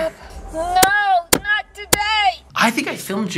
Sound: bangs

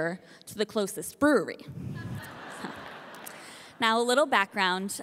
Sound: audience laughing

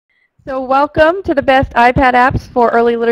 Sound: voiceover

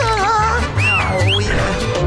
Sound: whistling; grunting

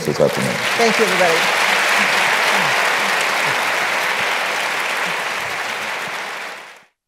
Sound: applause

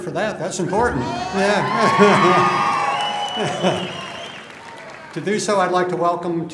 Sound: cheering

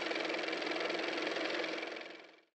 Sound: car motor

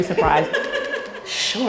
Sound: laughs

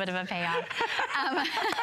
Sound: laughter

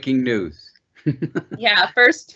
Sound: laughs

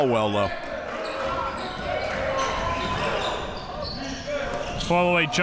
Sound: crowd cheering

